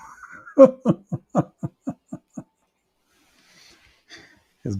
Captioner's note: Ketawa